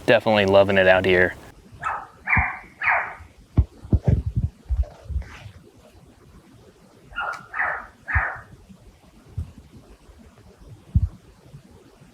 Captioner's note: mountain lion makes a call...maybe